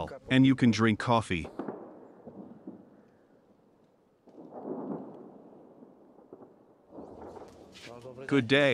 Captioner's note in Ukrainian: гуркіт артилерійських дуелей